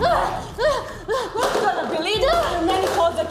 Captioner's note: both grunting